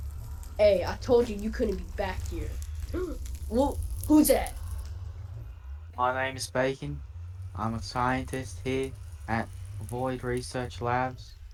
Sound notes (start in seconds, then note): 2.9 gasps